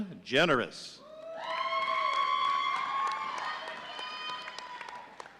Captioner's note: audience cheering